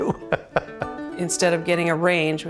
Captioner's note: laughs